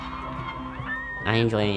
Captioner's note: crowd cheering